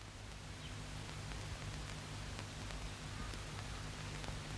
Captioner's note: birds singing